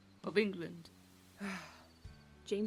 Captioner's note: Regulus lets out an exasperated sigh